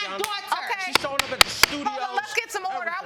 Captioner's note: gavel banging